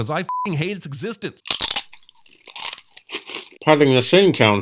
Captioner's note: crunch